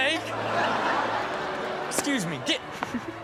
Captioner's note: audience laughs